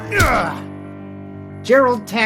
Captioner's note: Gerald groans